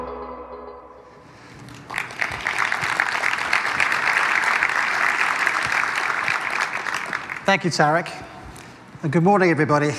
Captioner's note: applause